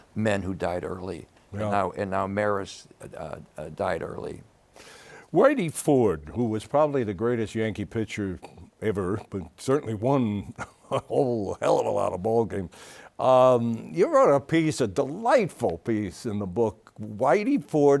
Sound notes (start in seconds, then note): 10.4 chuckles